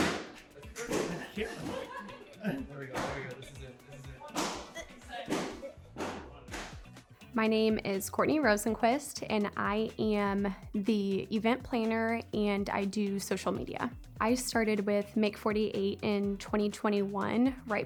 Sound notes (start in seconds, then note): 0.0 banging; 4.5 banging continues